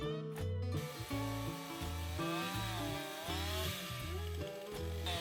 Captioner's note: chain saw whirs